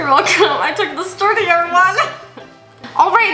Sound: laughs

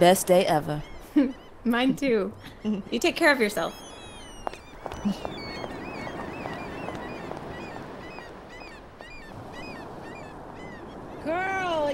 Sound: the sound of seagulls

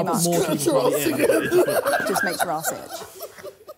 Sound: laughing

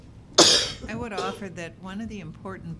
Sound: coughing

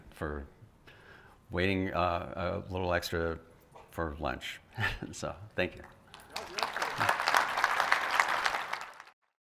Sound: applause

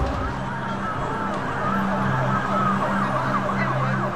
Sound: sirens wailing

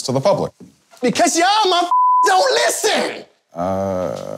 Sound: beep

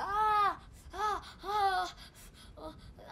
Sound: crying out

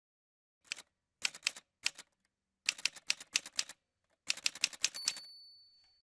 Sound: typewriter sounds

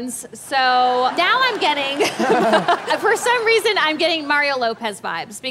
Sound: laughs

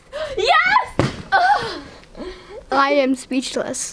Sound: lands on bed with a thud

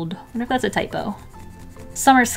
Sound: pencil scratching

